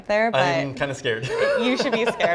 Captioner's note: laughs